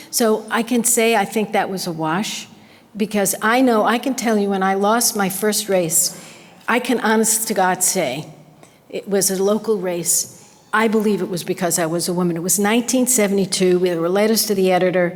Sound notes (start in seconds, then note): none